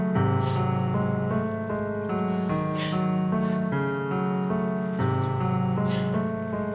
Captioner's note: sobbing